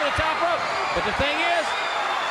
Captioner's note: crowd cheering